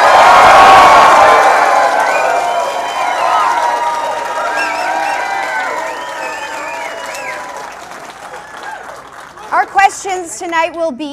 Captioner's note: applause